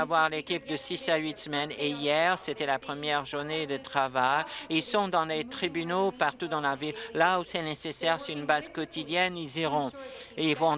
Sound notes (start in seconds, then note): none